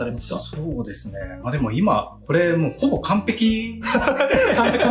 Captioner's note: laughs